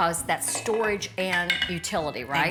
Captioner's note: objects knocking